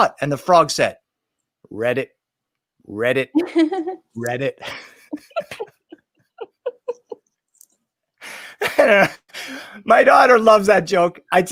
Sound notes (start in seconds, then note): 4.6 laughing